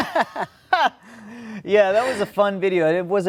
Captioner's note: laughing